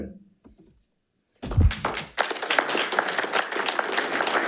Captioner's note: audience applauding